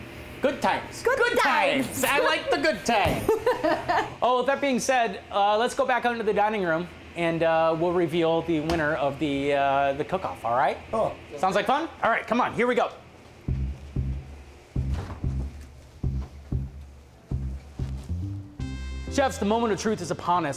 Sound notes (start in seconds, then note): 3.2 laughing; 13.5 upbeat music